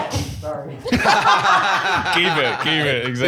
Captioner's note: all laughing